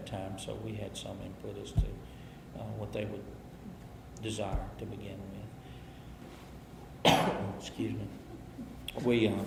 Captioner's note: coughs